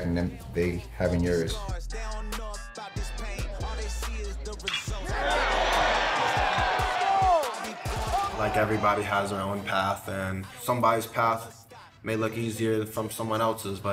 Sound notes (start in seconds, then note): 1.7 upbeat music continues; 4.8 audience cheering